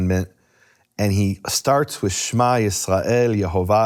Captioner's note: speaking if foreign language